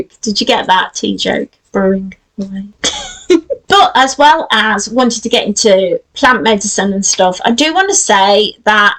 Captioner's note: giggles